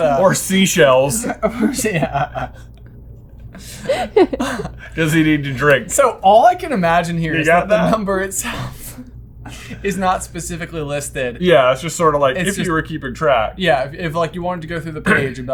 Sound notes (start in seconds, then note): 3.4 laughter; 7.6 laughs